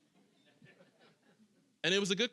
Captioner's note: audience chuckling